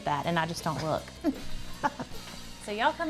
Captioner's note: laughs